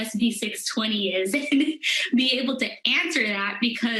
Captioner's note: laughter